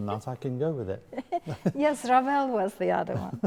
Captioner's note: laughing